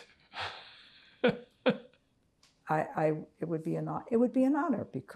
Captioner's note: laughing